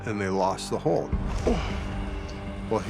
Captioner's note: grunts